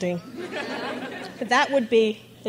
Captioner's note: crowd laughs